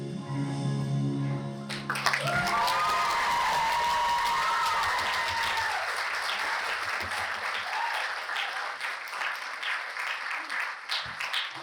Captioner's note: applause